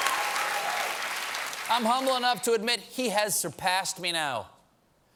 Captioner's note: cheers and applause